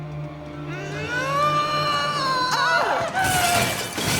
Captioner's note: Freddie struggling; loud crash